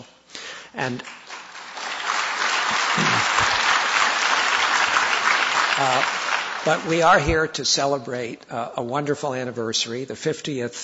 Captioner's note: audience applause